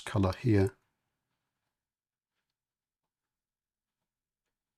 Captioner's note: silence